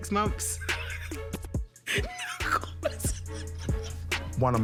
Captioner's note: laughing